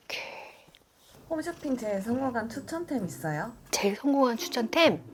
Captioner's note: purr